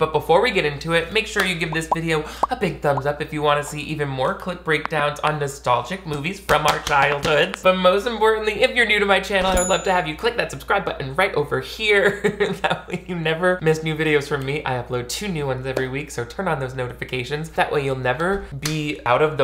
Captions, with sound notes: but before we get into it, make sure you give this video a big thumbs up if you want to see even more Clip Breakdowns on nostalgic movies from our childhoods, but most importantly, if you're new to my channel, (bell chiming) I would love to have you click that subscribe button right over here, (laughs) that way, you never miss new videos from me. I upload two new ones every week, so turn on those notifications. That way you'll never be out of